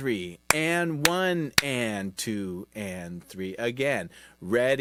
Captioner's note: clapping